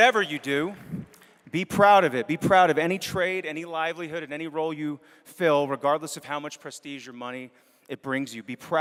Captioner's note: applause